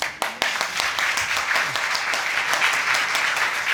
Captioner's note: audience applauding